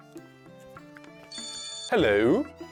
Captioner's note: phone ringing